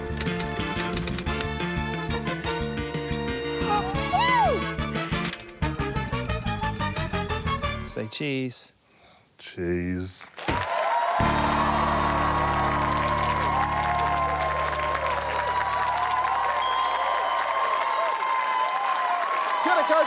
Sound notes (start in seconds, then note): 0.1 typewriter clacks; 3.1 gasps; 3.6 shrieks; 9.2 sighs; 10.3 cheering, applause; 12.9 typewriter clacks; 16.6 ding!